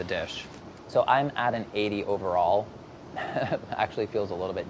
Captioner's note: laughs